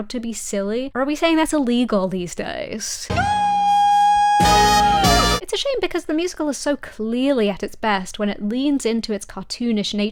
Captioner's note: Spongebob scream